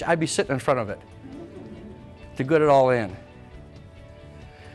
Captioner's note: audience laughs